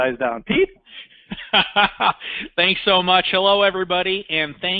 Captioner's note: laughing